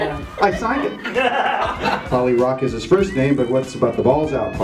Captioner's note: laughter